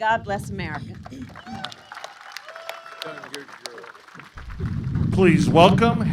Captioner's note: applause